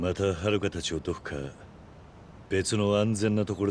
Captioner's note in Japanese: none